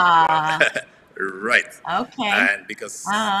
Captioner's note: laughs